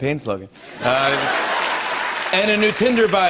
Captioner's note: laughter, applause